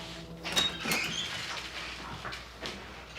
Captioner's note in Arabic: يفتح الباب